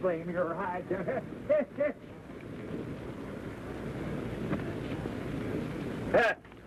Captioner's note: ha ha ha